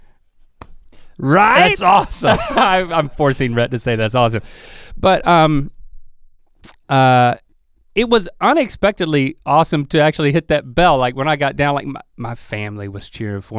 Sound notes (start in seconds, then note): 1.4 laughs